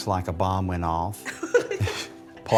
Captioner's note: laughter